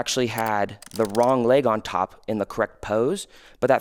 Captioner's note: computer keys clicking